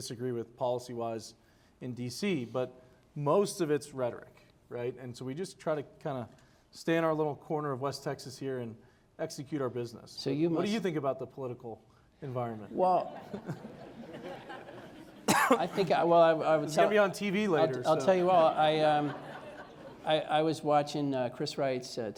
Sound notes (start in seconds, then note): 12.9 laughter; 15.2 cough